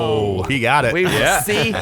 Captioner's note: laughing